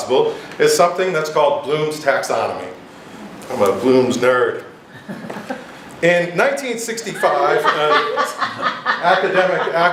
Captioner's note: giggle; laughter